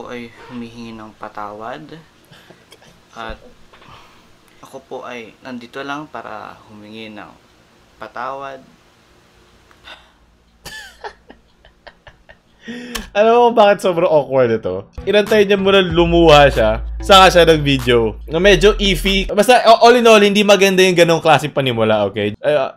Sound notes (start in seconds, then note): 9.8 wheeze; 10.6 laugh; 12.5 inhale